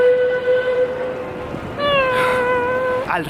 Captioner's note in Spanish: bocina